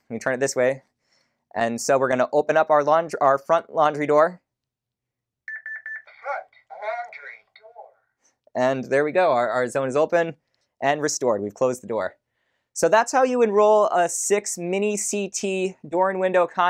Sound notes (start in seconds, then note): 5.4 beeps